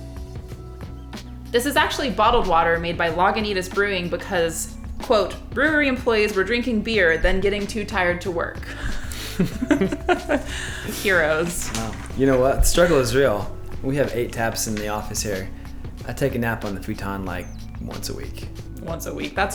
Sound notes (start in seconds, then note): 8.7 laughs